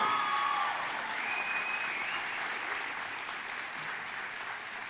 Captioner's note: audience cheering and applauding